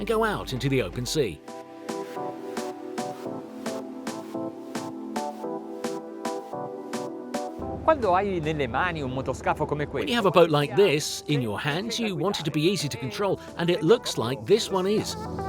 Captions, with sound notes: and go out into the open sea. (speaking in foreign language) When you have a boat like this in your hands, you want it to be easy to control and it looks like this one is.